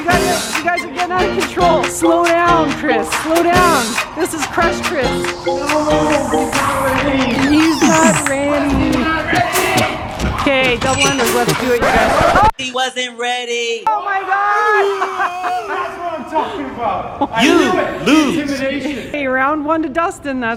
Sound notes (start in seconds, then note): 5.2 mockingly; 14.6 laughter